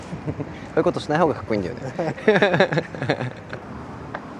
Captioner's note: laughs